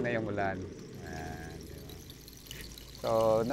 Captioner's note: creates raining sound